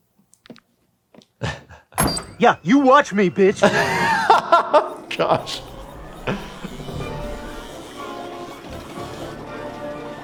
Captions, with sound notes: - Yeah, you watch me, bitch. - (laughs) Gosh. (suspenseful music)